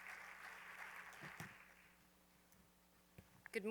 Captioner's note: applause